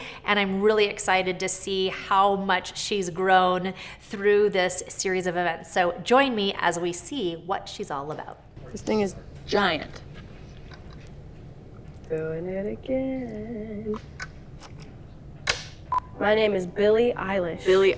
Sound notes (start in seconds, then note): 12.2 sing song voice; 15.4 clapperboard clapping